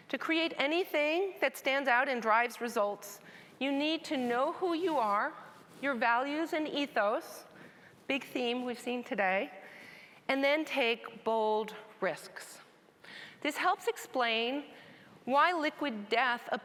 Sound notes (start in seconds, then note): none